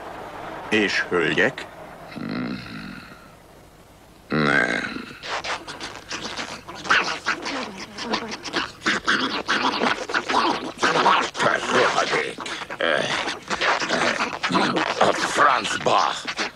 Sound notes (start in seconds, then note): 5.8 squeaking and tearing; 7.8 groaning and grunting; 13.2 grunting; 13.2 squeaking and groaning